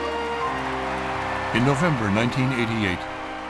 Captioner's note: applause and cheering